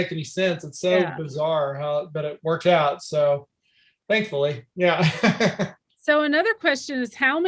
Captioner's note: chuckles